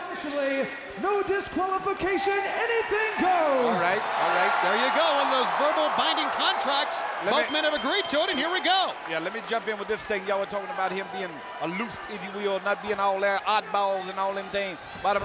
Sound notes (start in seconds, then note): 3.6 crowd cheering; 7.4 bell ringing